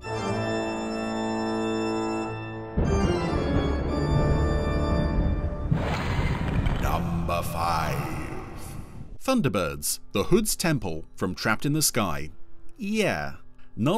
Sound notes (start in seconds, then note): 0.2 dramatic music; 6.8 ominous Voice